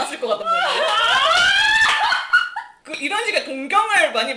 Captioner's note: screaming and laughing